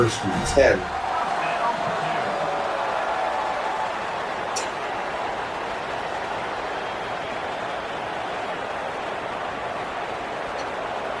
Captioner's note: crowd Noises